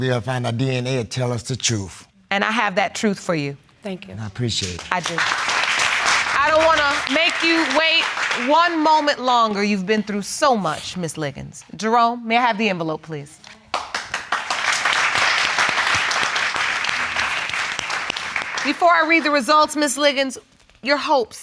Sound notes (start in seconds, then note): 4.5 all applauding; 13.7 audience applauding